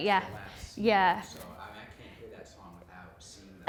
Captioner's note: voiceover